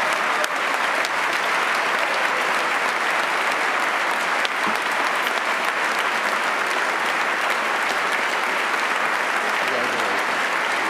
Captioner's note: applause